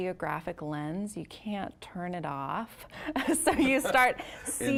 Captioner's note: both laughing